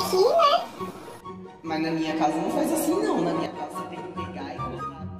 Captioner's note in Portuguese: voz modificada p/ camera lenta e redução de volume